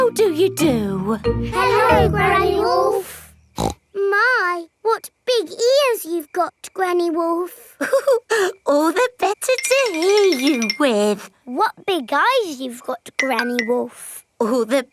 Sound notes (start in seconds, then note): 3.5 snorts; 7.8 chuckles